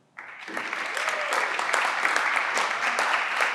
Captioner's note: everyone claps